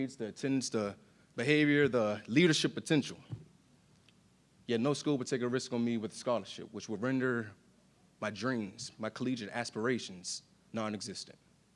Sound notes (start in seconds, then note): none